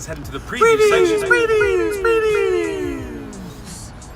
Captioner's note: voice echoing